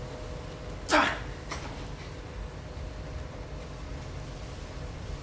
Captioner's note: fighter grunting